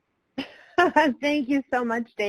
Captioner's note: laughing